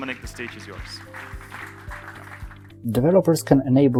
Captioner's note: applause